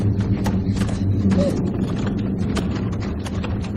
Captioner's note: whimpering